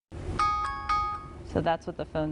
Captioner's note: chime